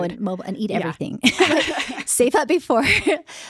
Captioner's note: all laughing